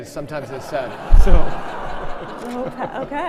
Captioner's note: audience laughing